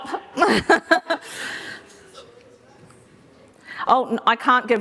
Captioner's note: laughter